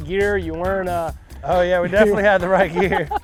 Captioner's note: laughing